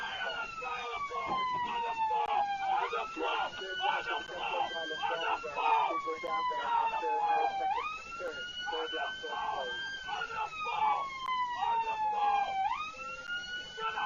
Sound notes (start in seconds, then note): 8.3 police car siren; 10.0 muffled shouting